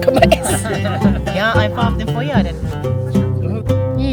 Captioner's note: speaking German